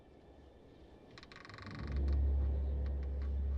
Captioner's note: creaking